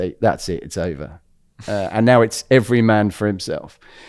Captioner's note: laughs